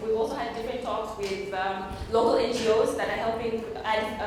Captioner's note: none